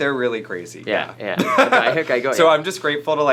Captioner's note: laughter